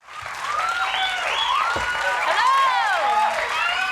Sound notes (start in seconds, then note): 0.0 audience cheering